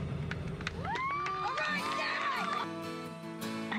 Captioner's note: applause